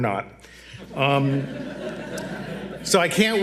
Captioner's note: audience laughs